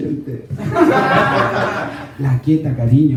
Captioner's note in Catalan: rialles